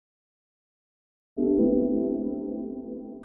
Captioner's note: computer tone